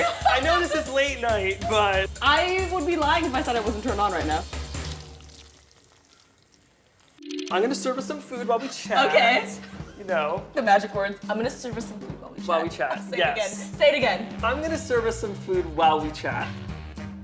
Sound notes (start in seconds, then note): 6.3 squishing